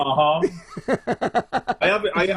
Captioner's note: laughs loudly